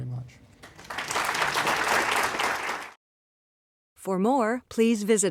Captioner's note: applause